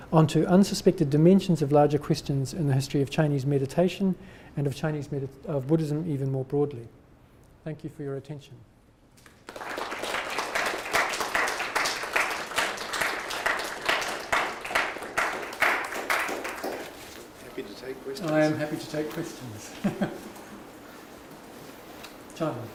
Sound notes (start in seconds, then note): 9.2 audience applauding; 19.7 chuckling